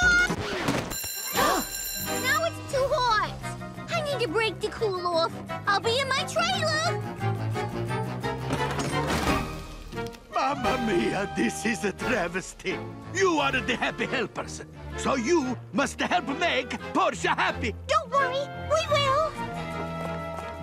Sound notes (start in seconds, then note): 0.6 needle scratches record; 0.9 bell rings